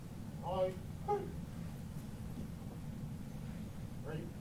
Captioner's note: marching commands